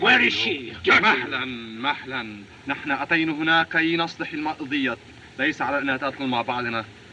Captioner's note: Hana Speaking Native Language